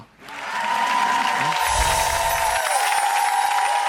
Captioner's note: crowed cheering